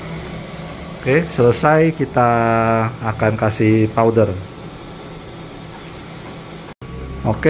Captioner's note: printer machine noise